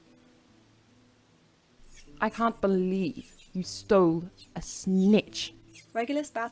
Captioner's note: Golden snitch swishing in background